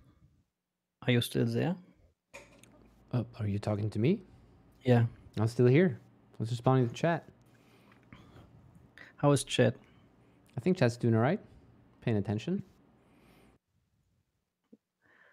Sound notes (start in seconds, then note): none